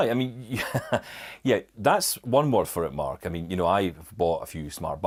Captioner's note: chuckles